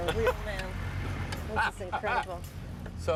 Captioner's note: Jerry laughs